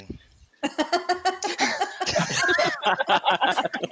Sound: laughing

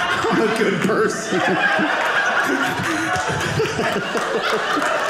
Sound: audience laughing

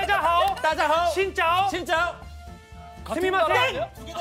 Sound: Vietnamese

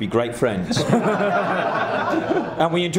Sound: laughing

